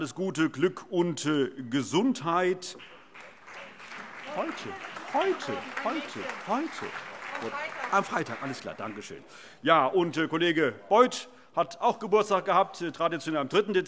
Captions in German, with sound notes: Glück und Gesundheit. [Allgemeiner Beifall] Kollege Beuth hatte auch Geburtstag, traditionell am 3. Dezember,